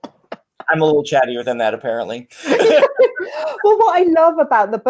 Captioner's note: laughs; laughs